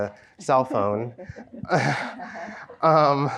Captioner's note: chuckles; laughs